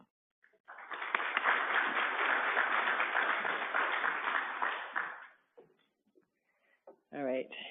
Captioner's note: applause